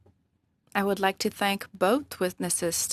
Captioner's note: speaking in French